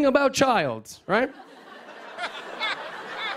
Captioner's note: laughter